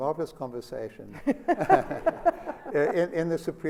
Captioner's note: laughter